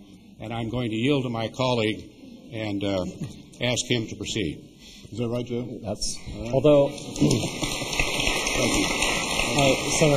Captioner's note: applause